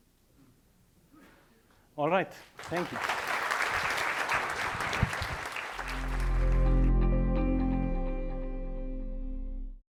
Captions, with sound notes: All right, thank you. (audience applauding) (tranquil electronic music)